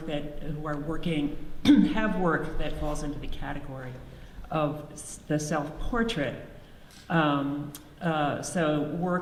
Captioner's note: clears throats